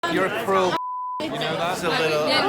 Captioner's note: beep